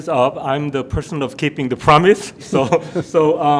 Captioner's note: laughs